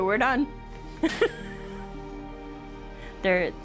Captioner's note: laughs